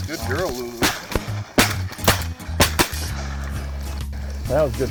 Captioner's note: gun fires